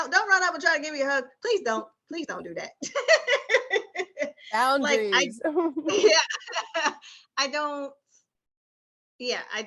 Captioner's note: laughter